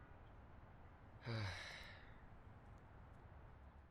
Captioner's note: joshua sighs